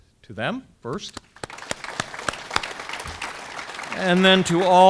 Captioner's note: audience clapping